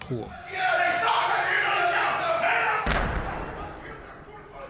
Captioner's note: people shouting